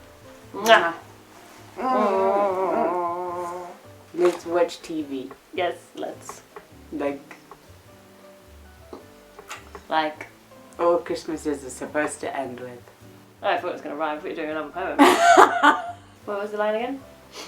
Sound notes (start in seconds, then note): 1.3 happy snuggle noises